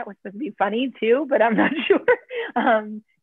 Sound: laughter

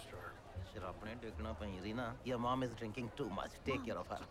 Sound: speaking in Punjabi

